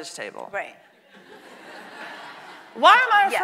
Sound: audience laughing

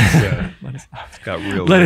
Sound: all laugh

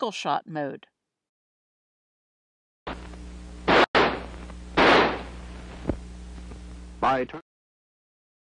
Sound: gunshot sounds

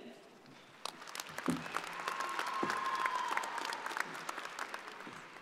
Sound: audience applauding

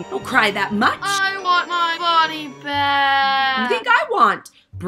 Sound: moans

